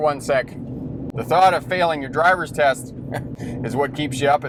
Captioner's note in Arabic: يضحك